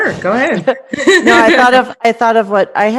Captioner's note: laughing